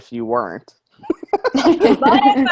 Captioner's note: all laughing